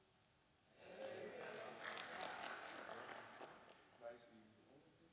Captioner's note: audience applauding